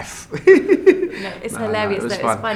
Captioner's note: laughs